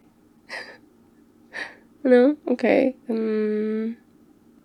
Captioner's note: laughs